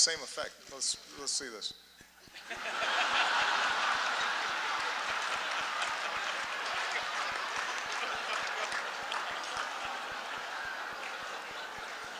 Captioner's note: laughter